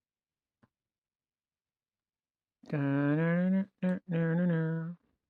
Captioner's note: humming